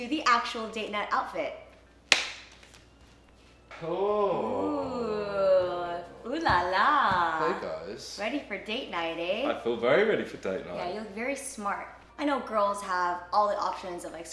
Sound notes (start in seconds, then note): 2.1 hand clasps